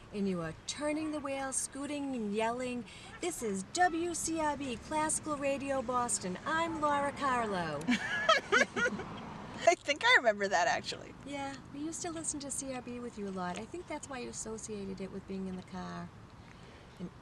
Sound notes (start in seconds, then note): 7.9 laughing